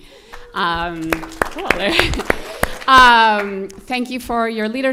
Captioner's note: audience cheers and applause